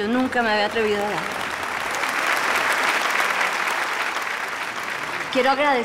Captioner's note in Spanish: Aplausos